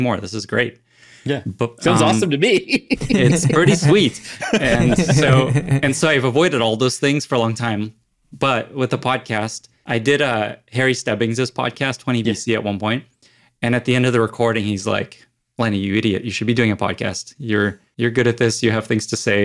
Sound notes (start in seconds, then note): 1.8 laughs; 1.8 chuckles; 4.1 all laugh